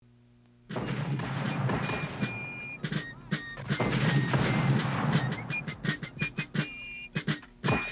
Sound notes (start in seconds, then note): 3.6 mortar fire booming